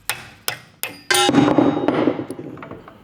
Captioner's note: clattering